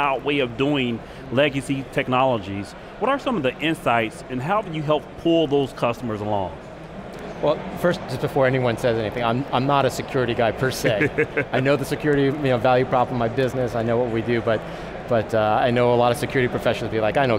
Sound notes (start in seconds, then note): 10.8 laughs